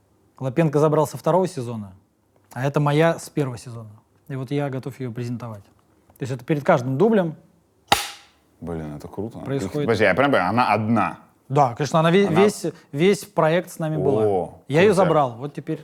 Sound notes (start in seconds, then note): 7.8 claps